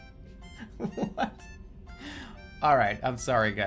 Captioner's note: laughing